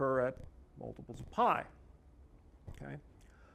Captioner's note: none